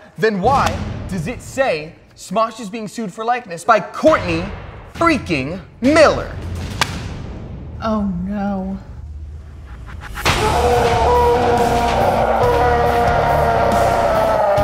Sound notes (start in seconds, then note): 10.3 screaming; 12.1 rock music